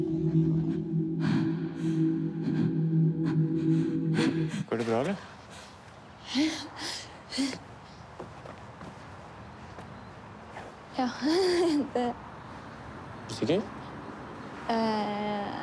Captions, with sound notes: -Are you okay? -Yeah… Yes. [chuckles] I'm… -You sure? -Er…